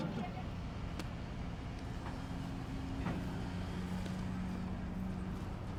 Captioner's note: car sounds